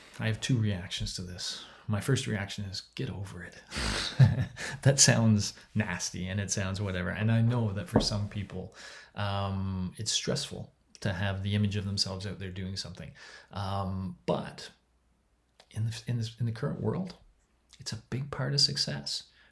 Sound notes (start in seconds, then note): 3.8 laughs